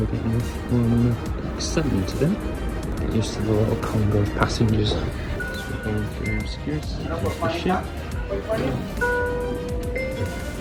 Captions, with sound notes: we're getting off on Deck 7 today You get used to the little Conga of passengers [Beeps] So we're going through security to get off the ship [Scanner bings]